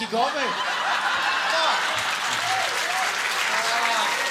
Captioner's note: audience laughing and clapping